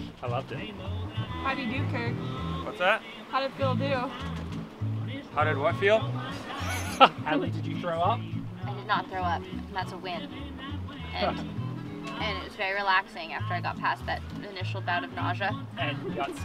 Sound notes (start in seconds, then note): 6.4 laughter